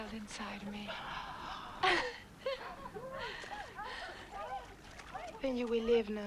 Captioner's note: Tracima gasps; Hundra giggles